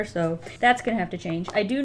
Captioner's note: none